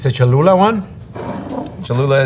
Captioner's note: jar sliding